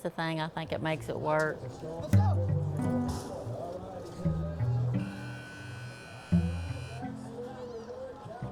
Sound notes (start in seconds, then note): 4.9 buzzer sounds